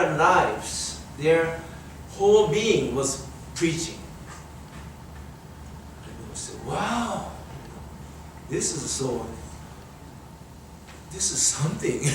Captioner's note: speaker chuckles